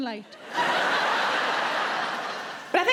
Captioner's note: audience laughs